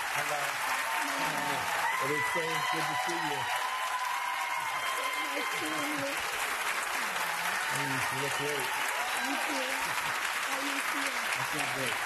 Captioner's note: applause